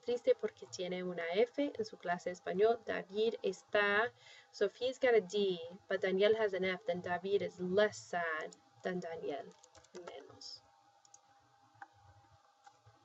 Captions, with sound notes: [speaking spanish] [speaking spanish]-- so if he's got a D, but Daniel has an F, then David is less sad than Daniel-- [spanish].